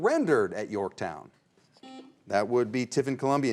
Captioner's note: buzzer rings